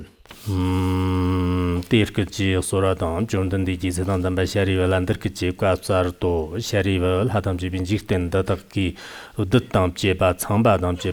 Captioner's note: giving oral transmission in Tibetan